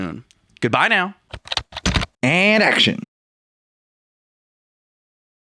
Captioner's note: typing